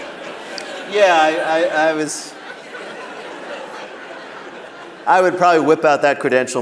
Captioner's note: laughter